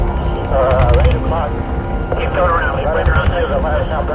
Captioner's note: gunshots firing